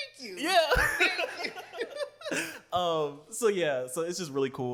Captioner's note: laughter